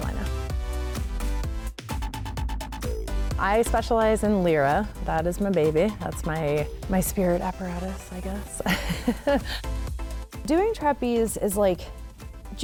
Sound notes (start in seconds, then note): 0.3 upbeat music; 8.6 laughs